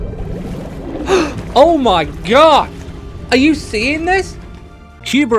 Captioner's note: gasp